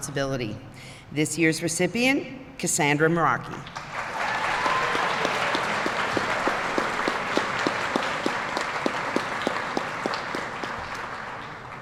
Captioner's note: applause